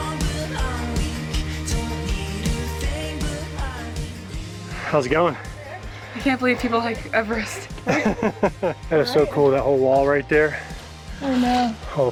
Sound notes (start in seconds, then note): 7.7 laughter